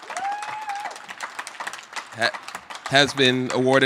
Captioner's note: applause